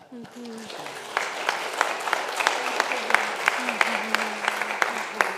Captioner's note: congregation applauds